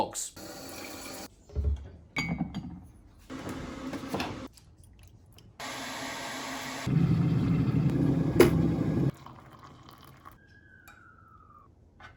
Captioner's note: noises of making a cup of tea